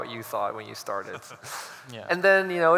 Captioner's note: laughs